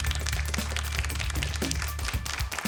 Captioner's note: applause